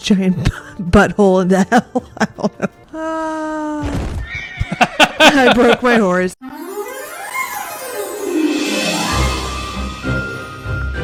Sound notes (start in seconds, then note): 4.2 horse neighs in agony; 4.5 laughing